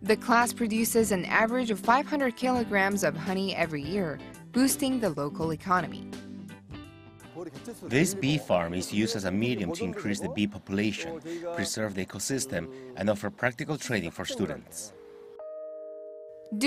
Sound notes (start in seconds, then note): 6.4 Korean